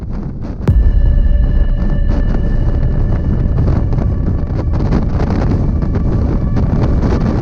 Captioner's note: wind howling